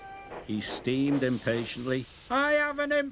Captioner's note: steam hisses